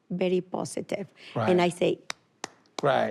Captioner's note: clapping